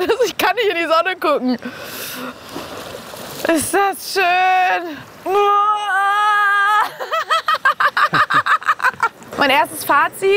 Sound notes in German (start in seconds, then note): 6.7 Lachen